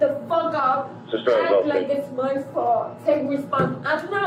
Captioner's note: radio chatter